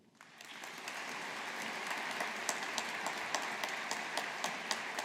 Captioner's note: audience applauding